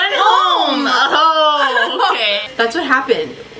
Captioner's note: laughs